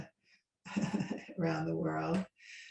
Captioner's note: laughs